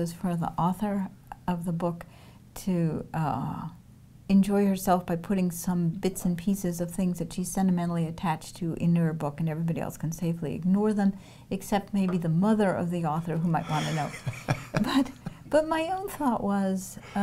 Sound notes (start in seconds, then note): 13.5 laughs